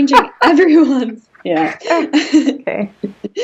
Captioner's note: both laughing